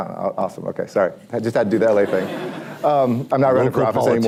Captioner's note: laughter